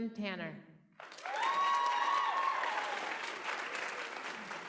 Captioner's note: applause